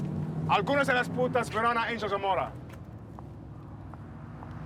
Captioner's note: Vargas speaks in Spanish